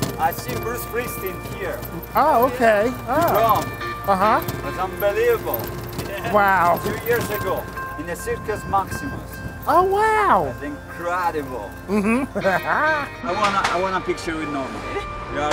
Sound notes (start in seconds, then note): 11.8 laughs